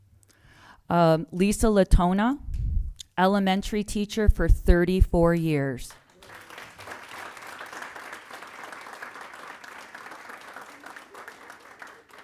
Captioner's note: applause